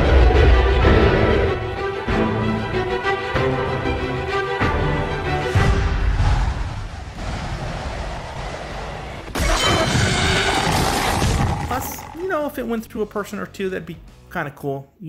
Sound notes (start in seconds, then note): 0.1 dragon roaring; 5.5 arrow flying; 9.3 dragon screams